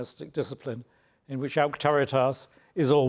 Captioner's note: speaks in foreign language